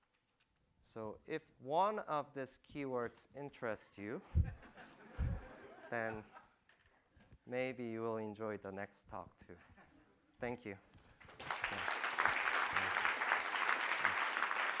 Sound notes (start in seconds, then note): 4.4 audience laughing; 11.2 applause